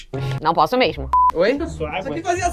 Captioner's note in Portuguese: som de bipe